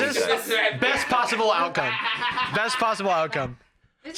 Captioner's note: laughing